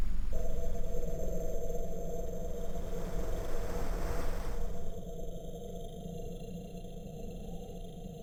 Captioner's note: static noise